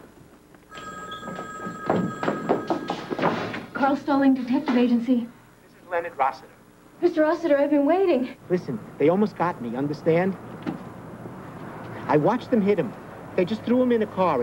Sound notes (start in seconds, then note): 0.7 ring